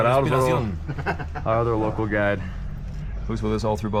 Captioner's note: laugh